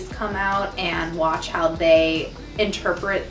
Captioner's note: none